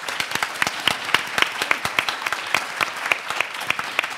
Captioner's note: audience applauds